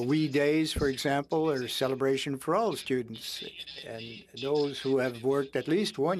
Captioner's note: speaking French